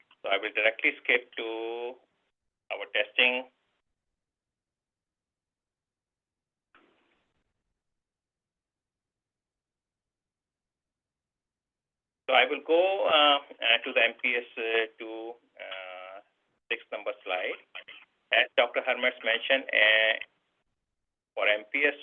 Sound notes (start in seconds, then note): 3.5 silence